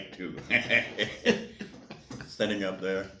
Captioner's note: laughs